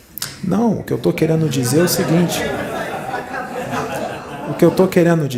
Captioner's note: laughter